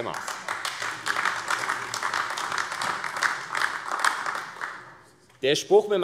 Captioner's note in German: Beifall AfD